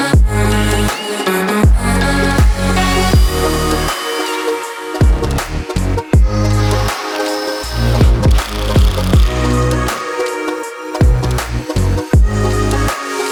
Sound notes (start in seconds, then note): 0.9 drill whirring